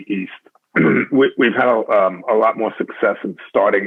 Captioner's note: clears throat